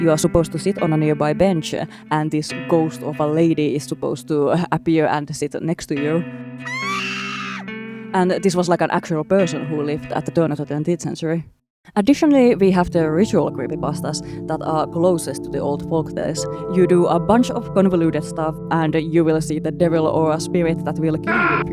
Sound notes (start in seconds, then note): 6.6 screeches at the spooky ghost